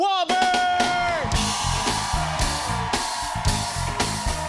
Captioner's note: cheers and applause